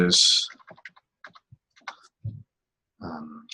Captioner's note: typing on keyboard